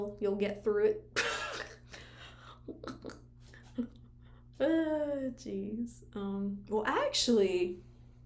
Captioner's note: laughs